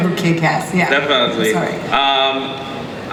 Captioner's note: voiceover